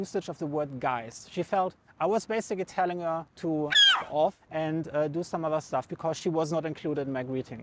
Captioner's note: crow